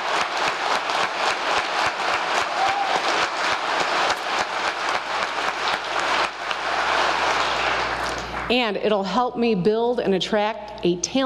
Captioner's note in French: applause